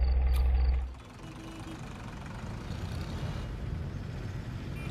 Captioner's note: car engines and crowd